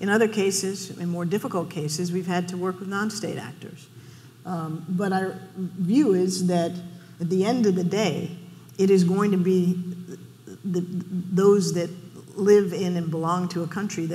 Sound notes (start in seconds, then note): none